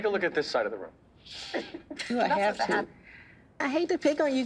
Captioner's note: inhales sharply